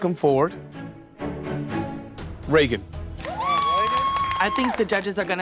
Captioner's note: cheering